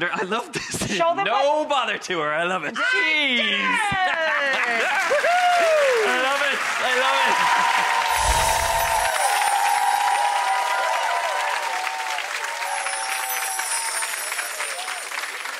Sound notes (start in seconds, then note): 9.6 crowd cheers